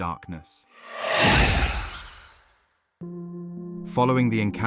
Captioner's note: wind whooshing